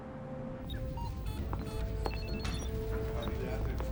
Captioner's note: instruments beeping; people chattering